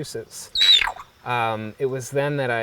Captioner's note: parrot screeches